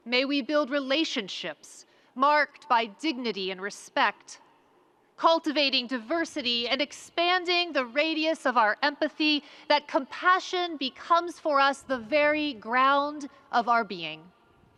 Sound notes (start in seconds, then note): none